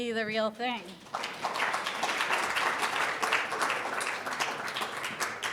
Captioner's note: audience applauding